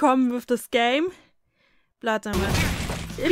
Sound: crunchy blow of a digital fist

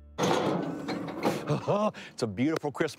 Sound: wheelbarrow rattling

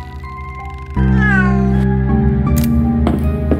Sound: cat meows

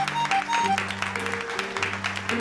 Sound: clapping

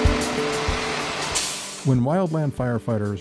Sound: truck engine rumbling

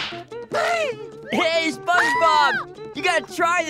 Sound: screams

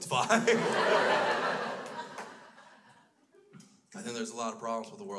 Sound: crowd laughs

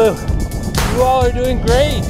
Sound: handclap

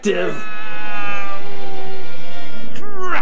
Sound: mouse yelling

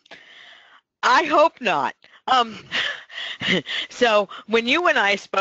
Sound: laughs

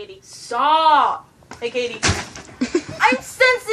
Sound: laughs

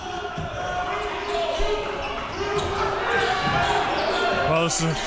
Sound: crowd cheering

